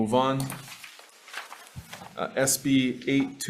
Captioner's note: papers rustling